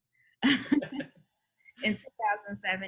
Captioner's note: laughs